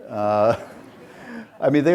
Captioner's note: audience laughs